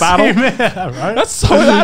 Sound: men laughing

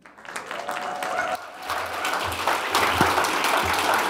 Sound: audience applauding

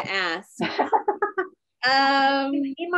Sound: laughs

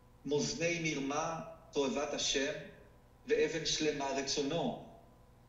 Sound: speaking foreign language

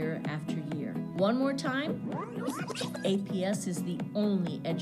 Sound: record scratch

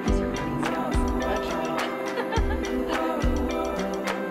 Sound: woman laughing in background

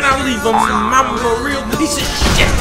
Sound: boing

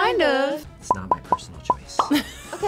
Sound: bubble pops; laughs

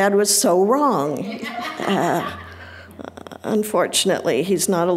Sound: audience laughing

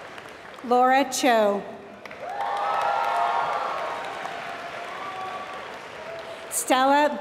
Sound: applause; applause

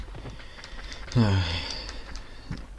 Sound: exasperated sigh

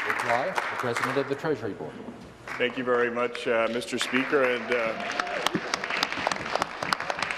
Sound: some Applause

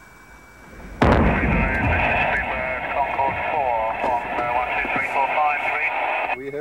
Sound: radio transmission from the Concord

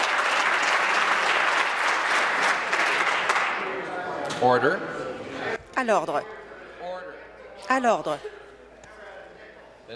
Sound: applause

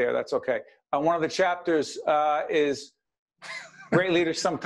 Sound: laughing

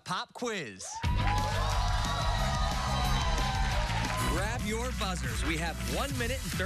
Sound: cheers and applause

